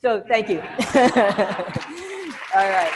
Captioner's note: all laughing